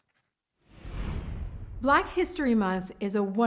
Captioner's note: whooshing